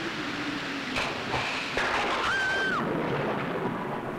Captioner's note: Thunder rumbling; Screams